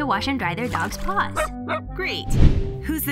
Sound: barking

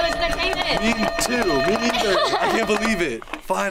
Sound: bells ring; laughs

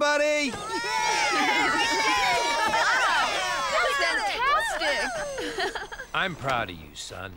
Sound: all Cheering

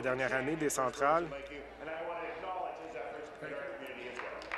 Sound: applause

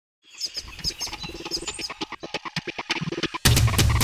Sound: birds chirping; techno beat; drumbeat

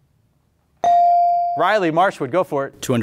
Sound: beep

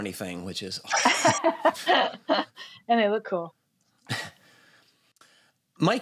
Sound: laughs

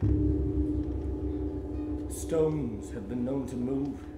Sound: bell rings

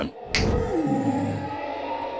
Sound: magical finger snap

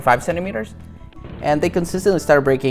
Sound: rig booms

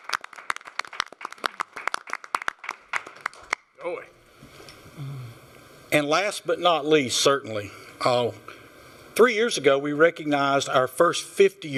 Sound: applause

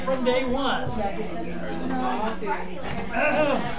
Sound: students talking

